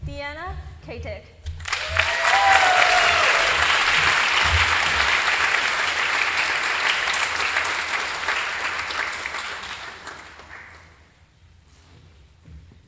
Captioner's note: applause